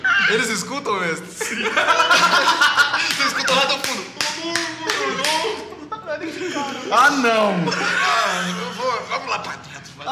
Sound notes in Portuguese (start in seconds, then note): 1.4 Todo mundo rindo; 4.6 com a voz abafada